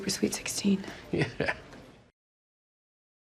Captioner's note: chuckles